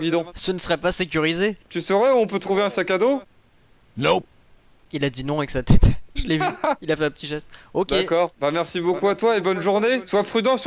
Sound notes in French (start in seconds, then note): 6.1 glousse; 6.1 rire